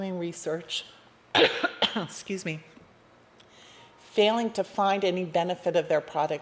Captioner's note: coughs